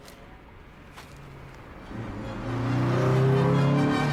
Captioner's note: car engine